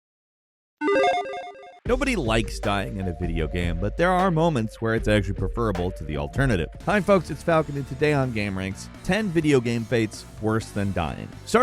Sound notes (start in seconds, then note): 0.8 electronic chiming